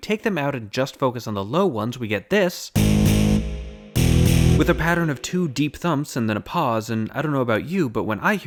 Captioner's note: bang